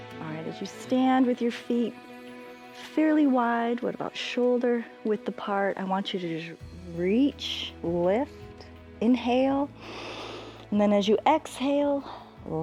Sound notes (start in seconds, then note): 9.7 inhales